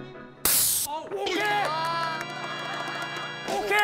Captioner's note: A blast of air